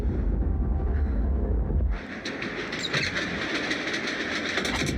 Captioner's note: train rattling